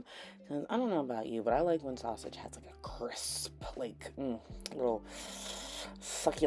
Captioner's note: sucks in air